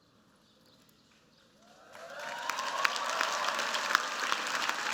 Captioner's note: cheers, applause